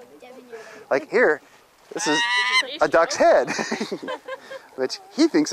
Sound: laughter

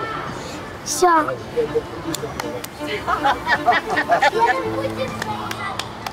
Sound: clapping

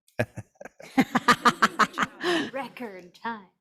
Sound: laughs; group laughs

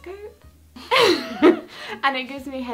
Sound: laughing

